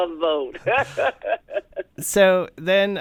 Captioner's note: laughter